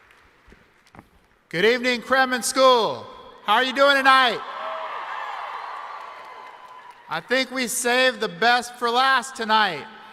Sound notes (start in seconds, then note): 0.0 applause; 4.2 cheering